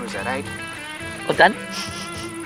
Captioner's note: sniffs